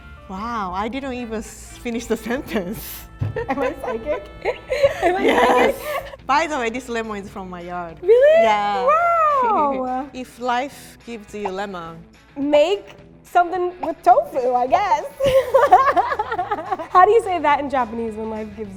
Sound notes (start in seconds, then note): 3.2 both laugh; 15.2 laughs